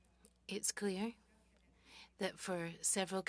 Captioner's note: speaking french